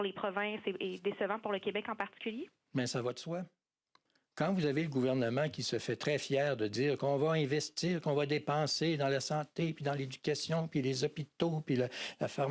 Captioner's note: speaking french